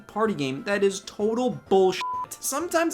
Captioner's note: beeps